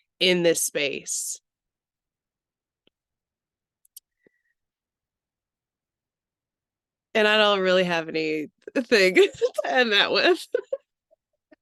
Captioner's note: laughs